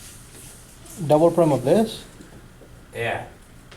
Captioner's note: voiceover